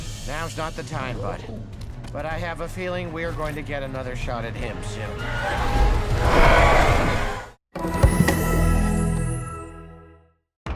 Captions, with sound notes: Now's not the time, bud. But I have a feeling we're going to get another shot at him soon. [Toothless roaring]